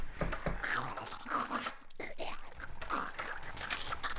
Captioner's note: creaking; clicking; rustling